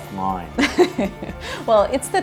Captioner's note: laughs